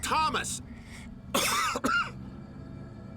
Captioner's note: coughs